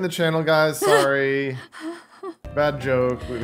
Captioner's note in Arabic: يضحك